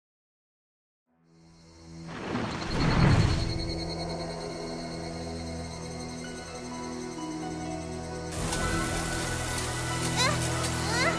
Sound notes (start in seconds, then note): 1.9 insects chirping; 9.2 kid grunting